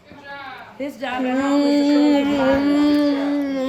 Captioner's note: chewing